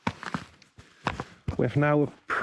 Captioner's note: pause